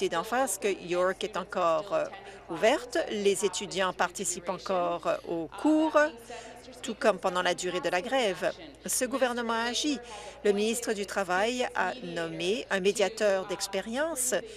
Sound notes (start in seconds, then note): none